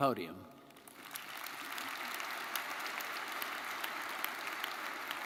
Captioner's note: audience applauding